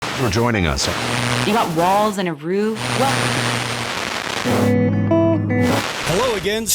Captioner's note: radio Changing Stations